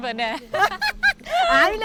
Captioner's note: laughs